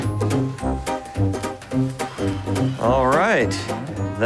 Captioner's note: sighs